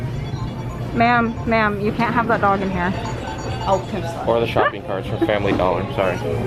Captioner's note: jokingly